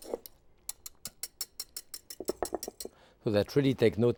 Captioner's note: whisk tapping